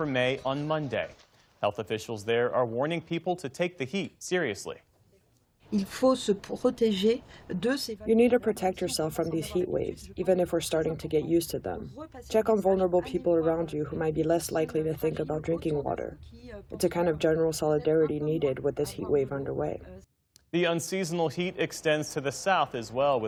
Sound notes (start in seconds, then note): 8.5 through translator